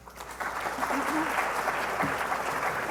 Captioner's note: applause